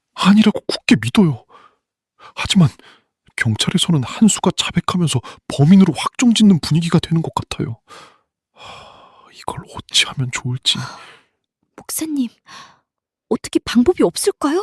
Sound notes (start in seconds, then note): 7.8 gasp; 8.6 sigh